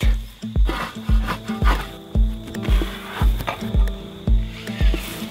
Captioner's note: work sounds